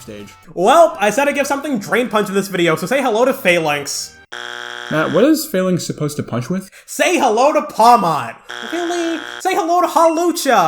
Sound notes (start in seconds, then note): 4.3 bzzt; 8.4 bzzt